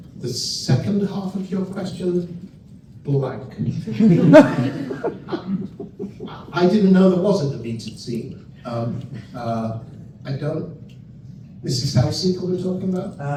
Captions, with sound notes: The second half of your question, blank. [laughter] I didn't know there wasn't a deleted scene. I don't. This is how sick we're talking about?